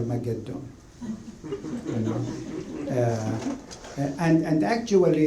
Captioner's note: laughter